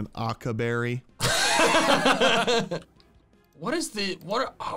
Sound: laughing

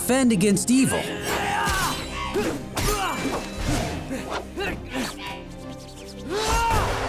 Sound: grunting

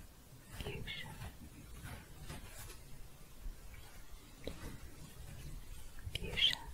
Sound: scratching

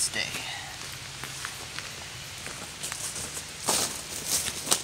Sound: leaves crunching

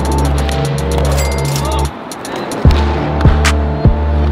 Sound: cha-ching

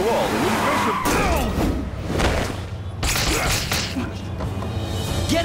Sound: wincing

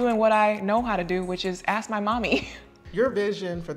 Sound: chuckles

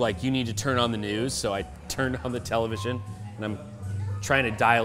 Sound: none

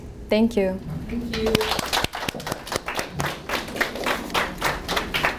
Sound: audience applauding

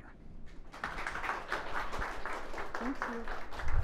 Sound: audience applauding

